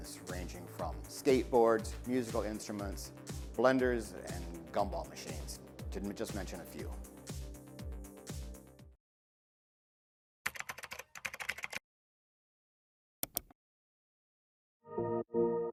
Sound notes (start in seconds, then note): 6.8 upbeat music; 10.4 keyboard keys tapping; 14.9 upbeat music